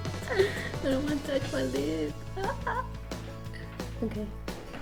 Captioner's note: laughs